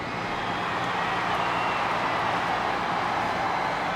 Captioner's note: crowd cheering